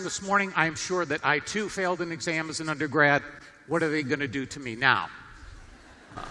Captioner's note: laughter